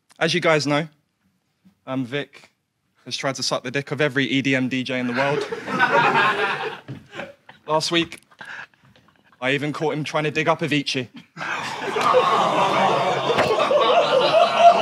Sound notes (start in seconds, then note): 5.0 audience laughs; 11.4 audience groans